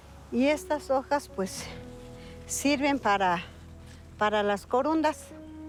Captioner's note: in Spanish